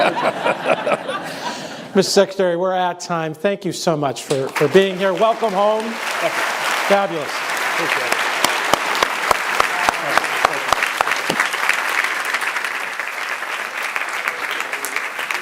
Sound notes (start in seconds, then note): 0.0 laughter; 9.0 applause